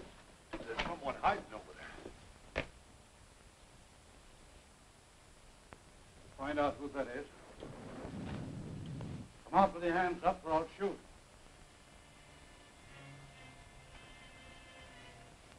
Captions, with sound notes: - There's someone hidin' over there. - Find out who that is. (thunder rumbling) Come out with your hands up or I'll shoot. (pensive music)